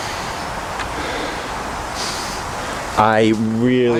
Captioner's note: sniffing Deep